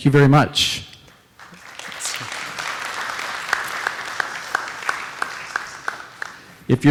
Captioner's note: applause